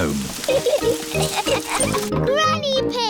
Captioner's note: laughter